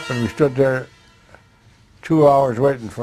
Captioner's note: none